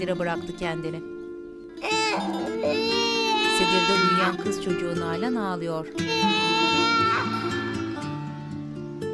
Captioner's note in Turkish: Müzik - Duygusal; Bebek ağlama sesi